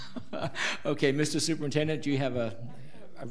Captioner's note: laughs